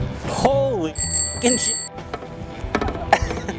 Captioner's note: bell dings; laughs